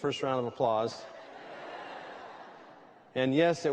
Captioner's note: laughter